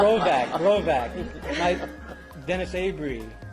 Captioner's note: laugh